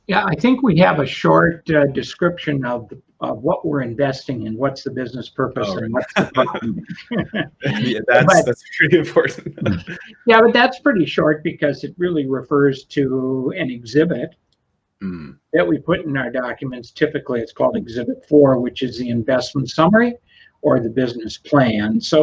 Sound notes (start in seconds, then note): 7.4 chuckles